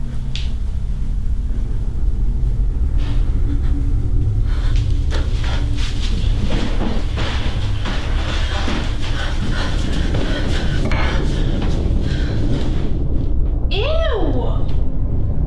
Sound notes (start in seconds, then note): 4.2 Teresa gasps; 4.8 tense sinister music; 9.6 Teresa panting